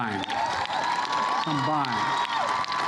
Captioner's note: applause